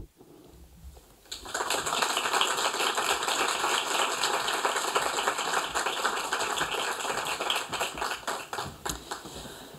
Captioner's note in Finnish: Aplodeja